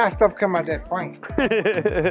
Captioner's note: laughs